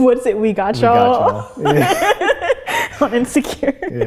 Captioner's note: both laugh